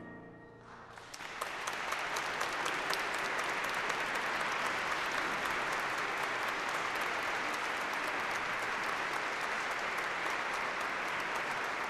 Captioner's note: applause